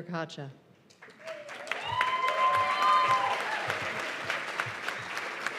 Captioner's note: cheers and applause